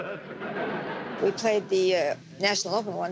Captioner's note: laughing